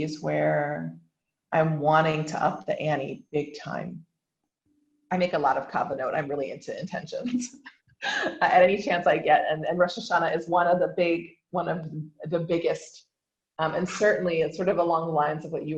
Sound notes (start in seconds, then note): 8.0 laughs